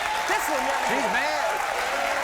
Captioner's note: crowd cheering